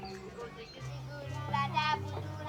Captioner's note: children reciting the quran